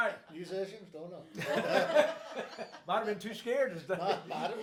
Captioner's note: group laughs